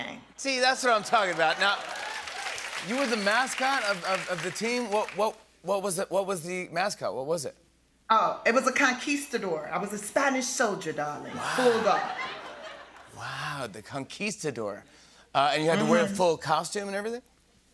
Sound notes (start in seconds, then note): 0.9 cheers and applause